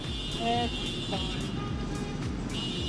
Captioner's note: car honking